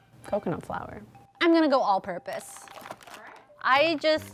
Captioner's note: plastic rustling